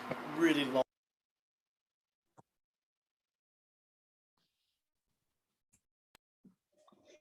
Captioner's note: video drops out